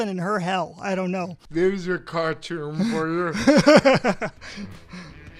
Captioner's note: laughs